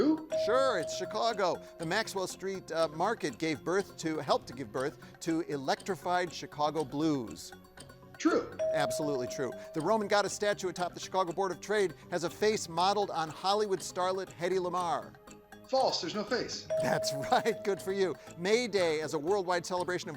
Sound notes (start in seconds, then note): 0.3 bell chimes; 8.5 bell chimes; 16.7 bell dings; 16.8 chuckles